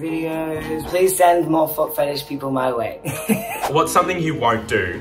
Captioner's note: laughs